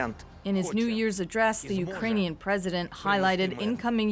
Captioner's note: speaking alternate language